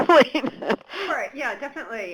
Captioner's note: chuckles